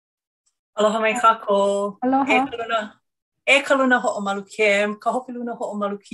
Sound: speaks in foreign language

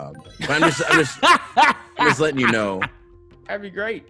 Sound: laugh

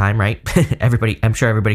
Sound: chuckles

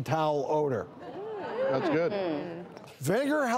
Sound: crowd chatters

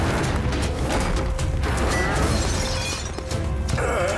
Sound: glass shattering

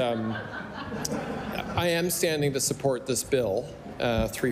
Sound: laughter

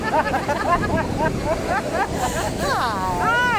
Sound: all laughing

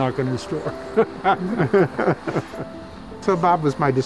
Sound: both laughing

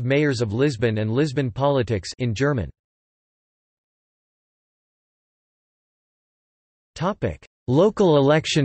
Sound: in German

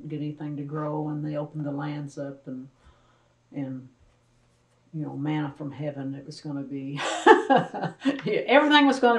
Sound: laughs

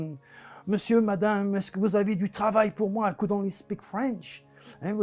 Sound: spreken in vreemde taal

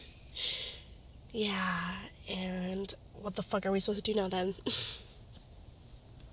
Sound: chuckles

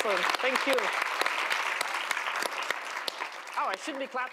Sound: applause

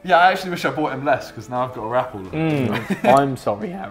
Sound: laughs

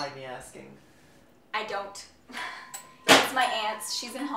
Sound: laugh

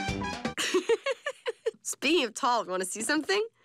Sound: laughs

